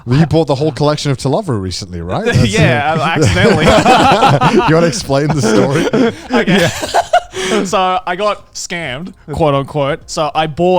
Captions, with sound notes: You bought the whole collection of "To Love Ru" recently. Right? - Yeah, accidentally. (everyone laughs) - You want to explain the story? - Okay. So I got "scammed", quote unquote.